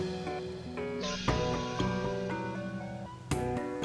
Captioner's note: gentle swish